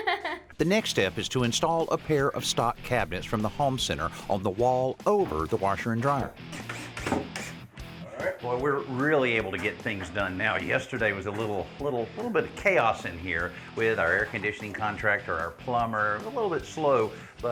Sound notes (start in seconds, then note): 6.4 drilling